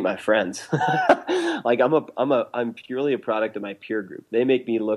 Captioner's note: laughs